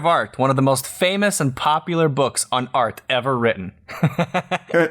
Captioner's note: laughter